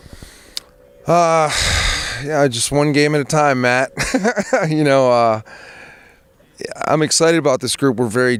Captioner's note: laughs